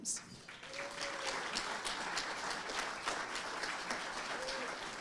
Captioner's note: audience applauding